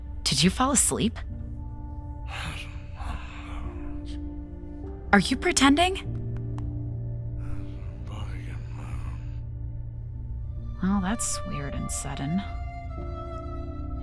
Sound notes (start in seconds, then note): 6.0 light patting